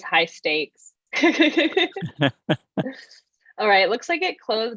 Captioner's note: laughs